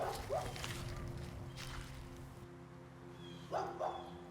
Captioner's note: dog barking